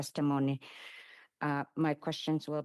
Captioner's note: speaking Alternate Language